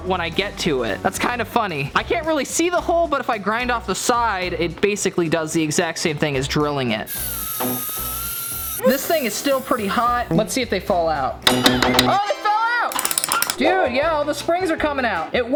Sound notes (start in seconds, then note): 7.0 grinder whirring; 12.9 lock clanging